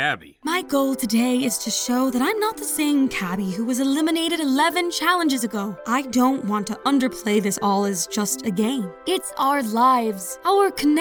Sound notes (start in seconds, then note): none